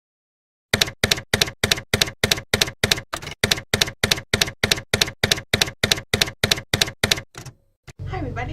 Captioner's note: typewriter keys clacking